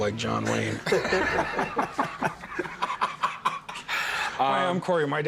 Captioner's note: laughter